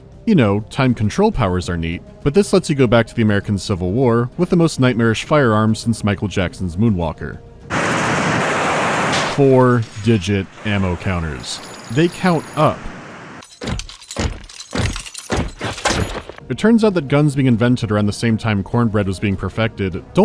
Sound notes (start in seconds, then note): 7.6 rapid gunfire; 13.4 marching in lockstep